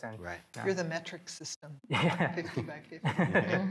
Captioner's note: laughing